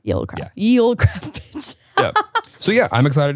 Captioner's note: laughing